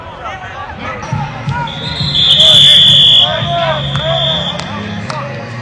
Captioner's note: multiple whistles blowing